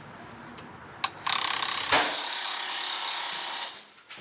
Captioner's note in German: Codeeingabe piepst; Türöffnergeräusch